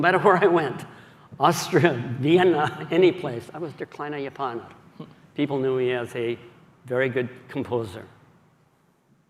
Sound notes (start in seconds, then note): 0.0 speaking german; 3.6 speaking german